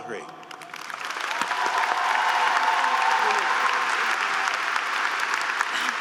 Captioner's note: audience applauding and cheering